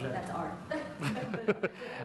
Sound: laughter

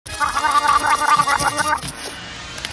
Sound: gargling

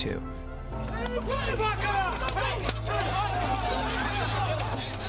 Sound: people shouting

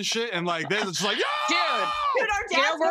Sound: screams

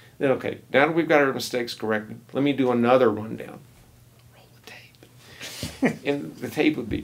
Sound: whispers

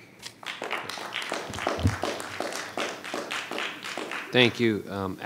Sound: attendees applauding

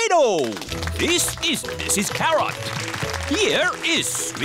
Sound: applause

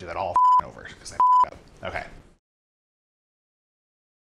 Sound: beep

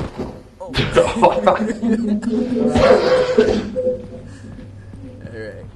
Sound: laughter

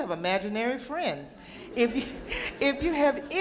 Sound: audience laughter

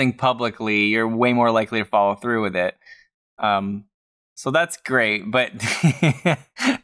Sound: chuckles

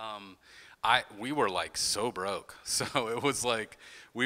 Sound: chuckles

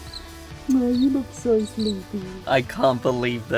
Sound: smacks lips

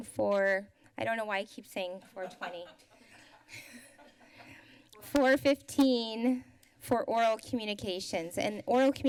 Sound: laughs

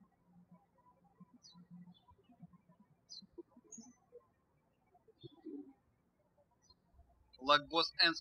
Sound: birds chirping

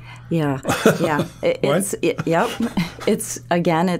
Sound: laughing

